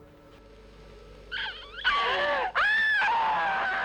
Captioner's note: screaming